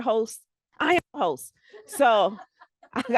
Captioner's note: laughter